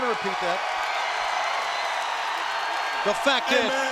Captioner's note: crowd cheers